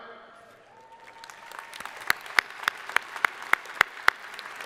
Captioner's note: crowd applauding